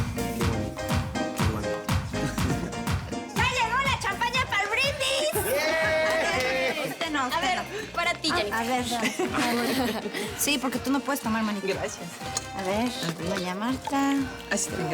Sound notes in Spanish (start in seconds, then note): 6.0 gritos y exclamaciones; 6.6 risas